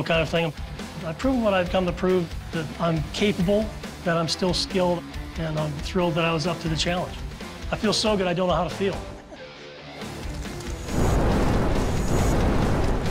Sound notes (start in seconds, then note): 9.0 laughs